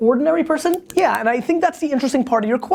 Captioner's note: clicking pen